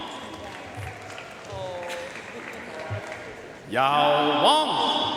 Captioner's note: audience cheering and applauding